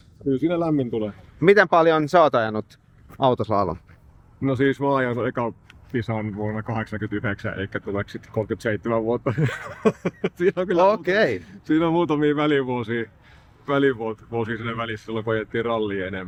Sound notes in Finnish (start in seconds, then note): 9.4 naurua